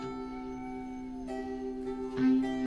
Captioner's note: none